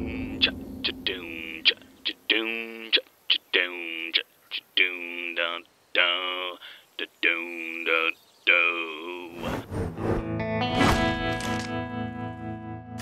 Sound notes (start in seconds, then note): 0.0 man humming theme